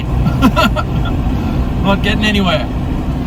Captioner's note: laughs